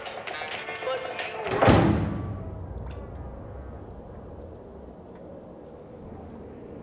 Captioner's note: loud slamming